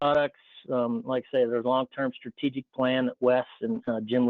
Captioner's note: speaking faintly